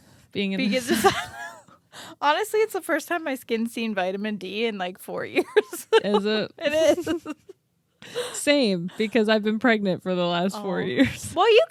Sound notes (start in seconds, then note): 0.8 both laugh; 5.3 laughs